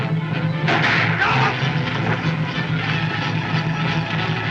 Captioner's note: groans